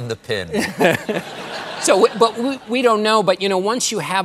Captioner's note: laughter